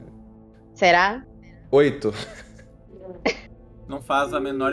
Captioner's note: laugh